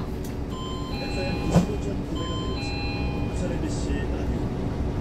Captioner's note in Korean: 하차벨 소리